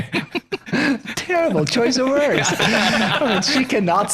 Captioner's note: laughing